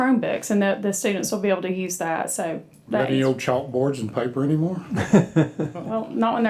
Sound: laughing

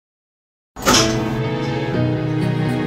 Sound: sound of lights turning on

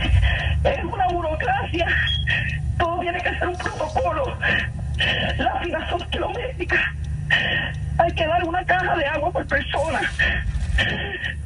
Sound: sobbing continues

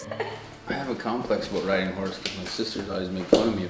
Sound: girl laughs

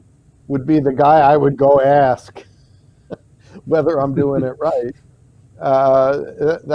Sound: chuckles

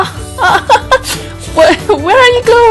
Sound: background music; laugh

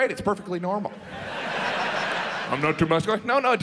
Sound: audience laughs

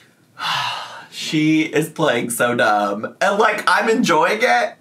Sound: sighs

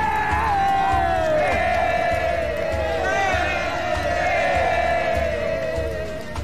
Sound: all yell; crowd cheering

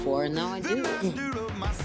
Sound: scoffs

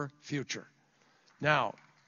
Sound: applause

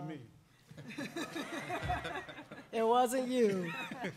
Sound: laughing

